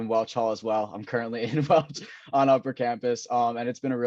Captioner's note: chuckles